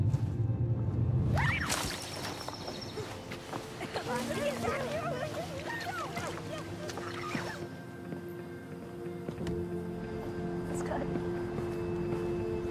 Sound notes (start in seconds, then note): 1.2 child laughing; 1.2 water pattering; 1.5 birds chirping; 7.2 gentle music